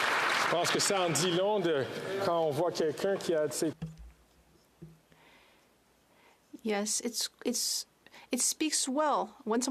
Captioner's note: applause